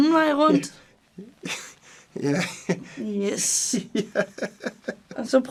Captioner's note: laughs